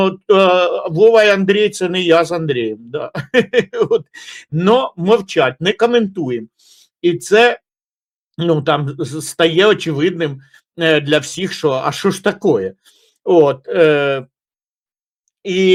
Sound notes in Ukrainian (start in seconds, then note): 3.0 сміх